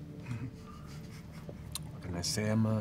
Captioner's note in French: ricanement